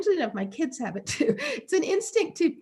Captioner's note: laughing